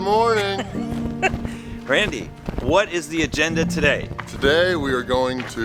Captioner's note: laughs